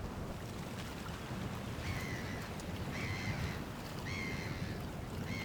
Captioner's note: seagulls calling or howling